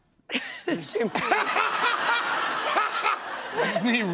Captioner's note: laughter